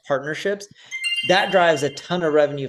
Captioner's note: bell chimes